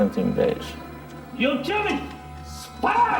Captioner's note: speaking in foreign language